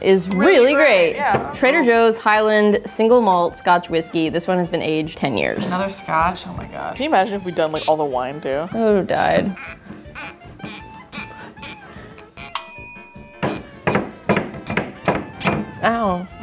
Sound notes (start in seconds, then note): 9.4 bottle squeaking; 9.6 timer dinging; 13.2 banging rhythmically